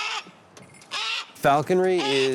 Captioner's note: hawk calls